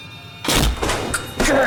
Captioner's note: loud bang